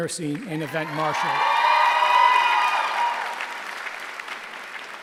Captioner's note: cheering